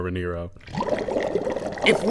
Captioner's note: bubbling